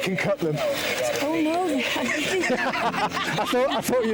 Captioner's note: laughing